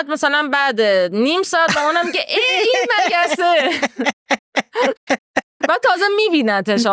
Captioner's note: laughs